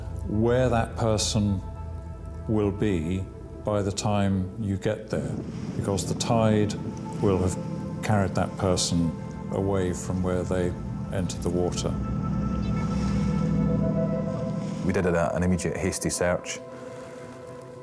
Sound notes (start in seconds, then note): 12.1 lifeboat engine whirring